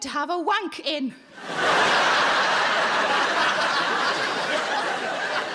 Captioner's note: audience laughing